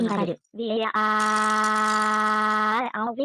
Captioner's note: all shouts; gila cries even more